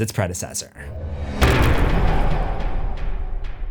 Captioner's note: impact